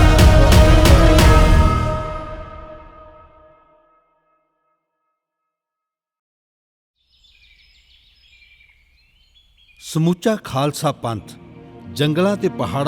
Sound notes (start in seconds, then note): 7.0 birds chirping